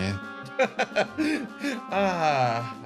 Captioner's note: laugh